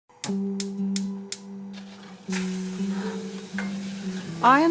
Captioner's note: sound of gas ring on stove being turned on; sound of meat cooking